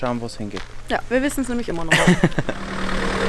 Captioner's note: laughing